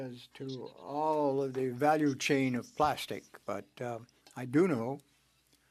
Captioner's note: speaking French